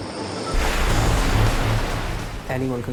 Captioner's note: waves crashing